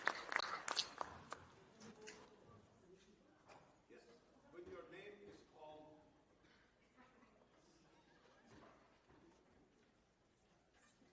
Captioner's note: applause